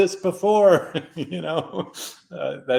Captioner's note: laughs